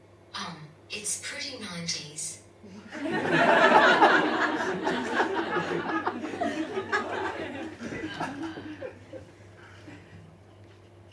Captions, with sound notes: Um, it's pretty 90s. (Audience laughs)